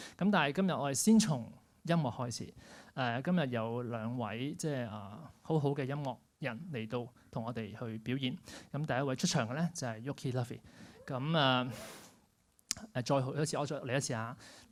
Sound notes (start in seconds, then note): 11.4 cheers at low volume